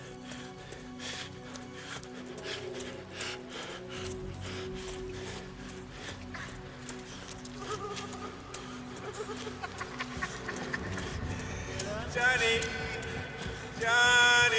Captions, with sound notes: (man laughing) Johnny, Johnny!